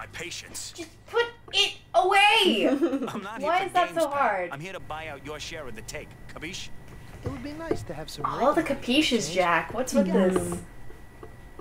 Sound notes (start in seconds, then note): 4.6 game audio